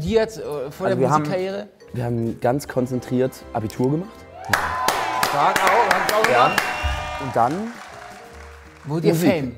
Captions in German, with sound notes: Habt ihr was gelernt, studiert? Wir haben ganz konzentriert Abitur gemacht. (Jubel) Und dann ... - Wurdet ihr fame.